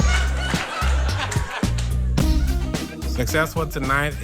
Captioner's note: audience laughs